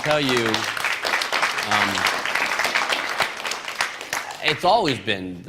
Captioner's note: applause